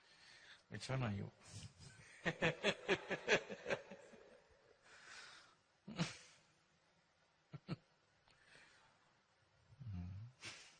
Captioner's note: laughs